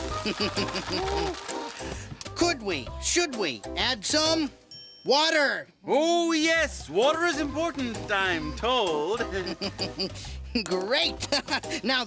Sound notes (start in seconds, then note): 0.2 continues chuckling; 9.2 laughing